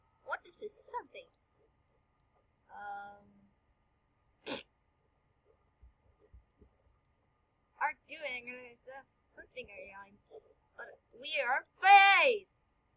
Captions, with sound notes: What is this something Uhh *fart* Are you get that think there your are something are... WE ARE FACE!